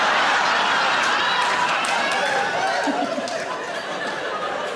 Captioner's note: audience laughs